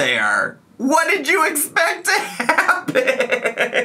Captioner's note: laughs